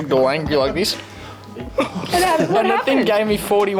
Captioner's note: laughs